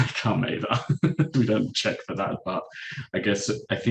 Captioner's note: chuckles